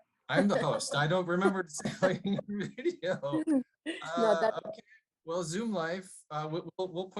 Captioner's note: laughter